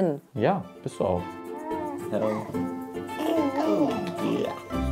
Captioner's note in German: Glucksen, ruhige Musik